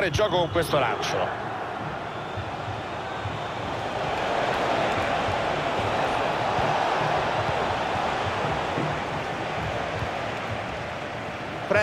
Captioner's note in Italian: Applauso